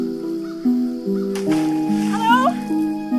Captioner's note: water splashing